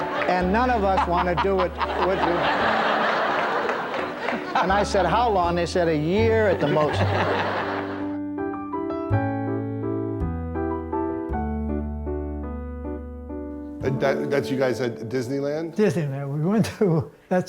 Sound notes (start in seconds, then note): 0.0 Rickles laughs; 3.1 audience laughs; 6.6 Rickles and audience laugh; 8.5 lively piano music plays